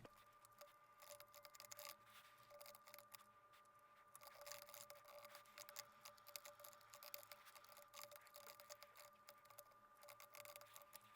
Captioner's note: typing